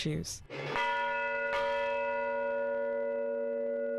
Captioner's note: bells chiming